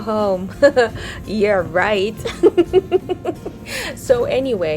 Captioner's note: laughs